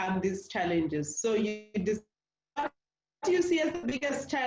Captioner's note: distortion